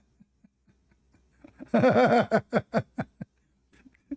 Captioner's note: Ketawa